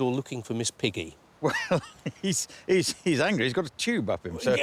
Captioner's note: laughing